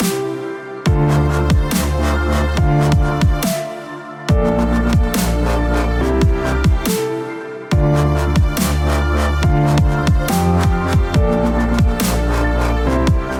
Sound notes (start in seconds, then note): none